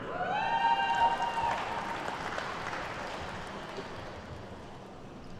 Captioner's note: attendees cheer and clap